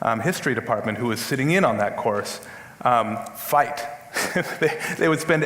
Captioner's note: laughs